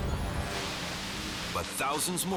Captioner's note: water hissing